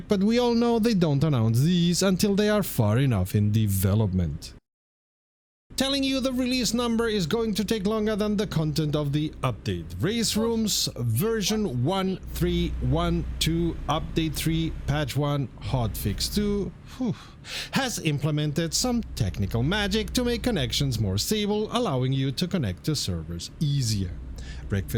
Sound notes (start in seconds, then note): 16.9 phew